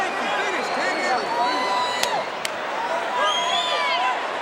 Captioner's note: Jim chattering